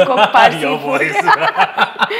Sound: laughs

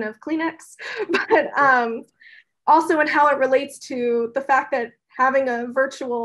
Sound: laugh

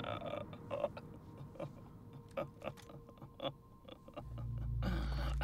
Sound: Gabriel laughs

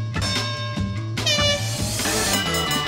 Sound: horn blowing

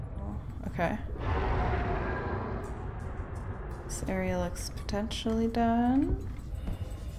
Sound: roar

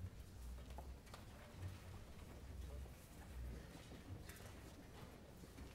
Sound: rustling and murmurs

